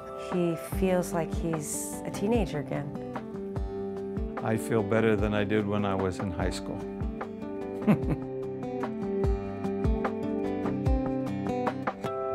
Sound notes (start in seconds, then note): 7.8 laughs; 9.2 instrumental music